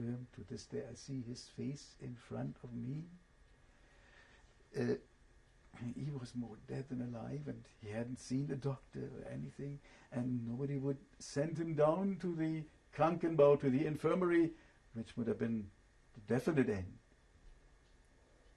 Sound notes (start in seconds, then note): 12.8 german